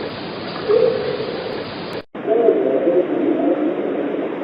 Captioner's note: creature whooping